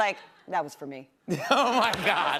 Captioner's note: laughter